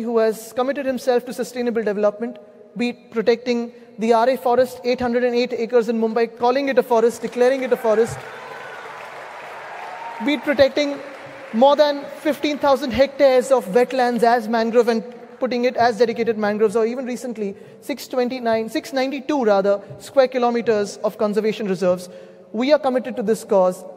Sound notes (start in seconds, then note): 14.3 applause